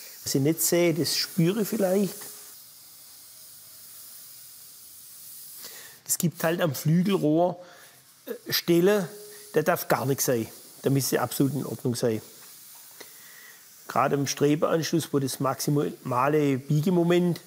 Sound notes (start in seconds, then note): none